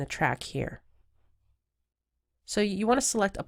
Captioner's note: silence